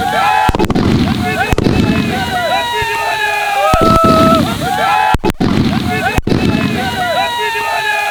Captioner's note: cheering out of Excitement